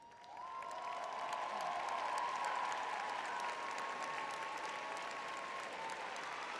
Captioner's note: cheering